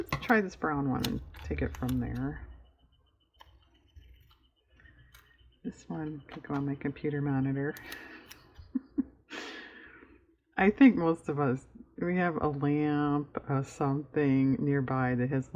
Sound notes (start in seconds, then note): 7.7 laughs